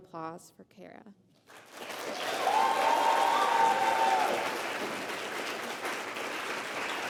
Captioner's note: applause